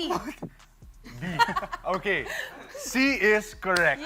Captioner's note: chuckles